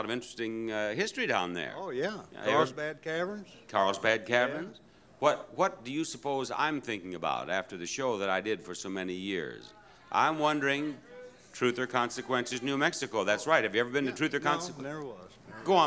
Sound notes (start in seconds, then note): 10.7 audience member shouting